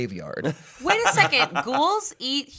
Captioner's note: laughing